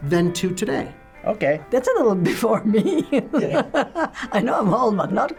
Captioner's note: laughs